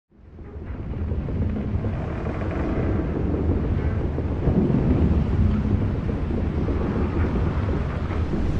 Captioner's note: ship creaking